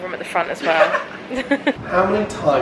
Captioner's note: laughs